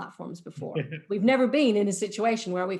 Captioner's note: laughs